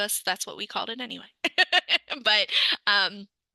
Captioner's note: laughs